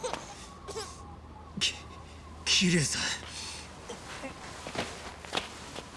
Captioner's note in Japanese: 泣き声